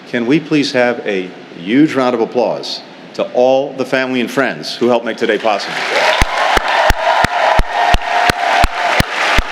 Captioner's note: cheers